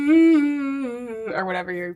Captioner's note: speaker hums